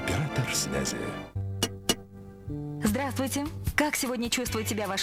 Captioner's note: knock